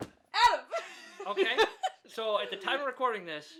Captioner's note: laughs